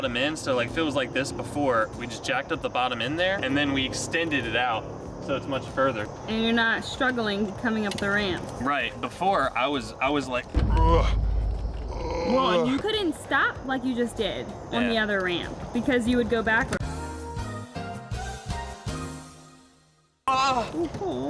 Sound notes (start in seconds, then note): 11.8 grunting